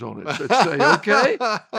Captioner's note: laughing